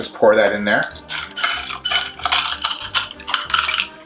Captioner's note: pouring